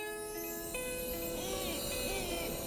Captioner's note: bright music; chimes tinkling